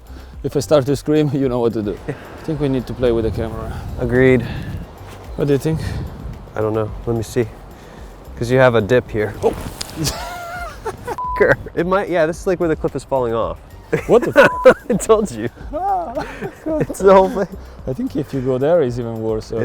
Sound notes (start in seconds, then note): 10.0 laughs; 13.9 laughs; 14.4 beep